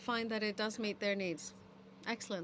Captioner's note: speaking in french